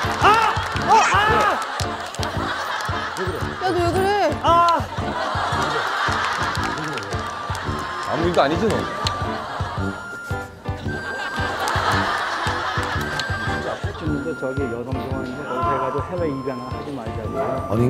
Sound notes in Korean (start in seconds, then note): 11.4 푸핫